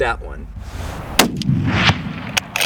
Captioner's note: gun Shot